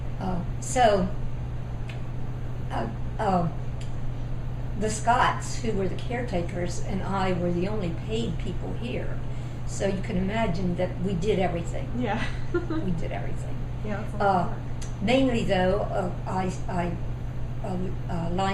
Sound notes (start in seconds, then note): 12.3 laughs